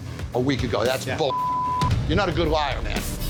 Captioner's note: beep